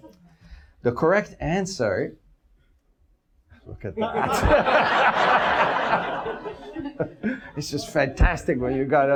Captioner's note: audience laughs